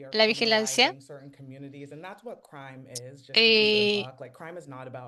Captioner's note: hablando inglés